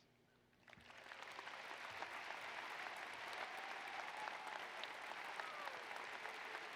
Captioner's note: applause